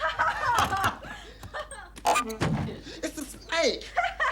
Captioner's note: laughter